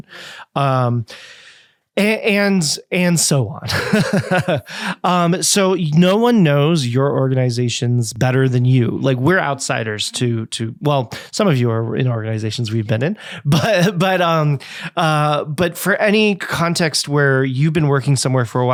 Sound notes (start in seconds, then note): 3.6 chuckles